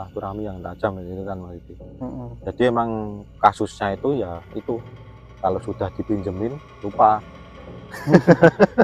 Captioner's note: laughs